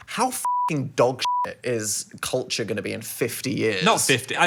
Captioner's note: beep